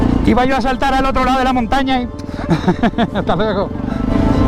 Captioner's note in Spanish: risas